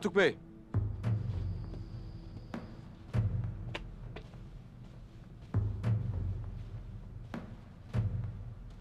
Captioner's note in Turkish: Ayak sesi